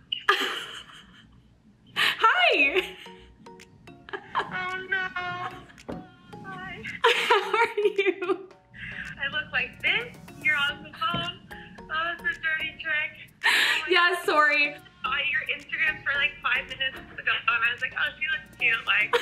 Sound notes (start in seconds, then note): 4.1 laughs